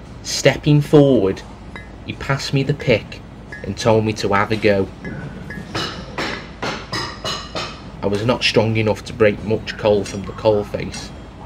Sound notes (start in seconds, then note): 5.4 pickaxe Clinging against rock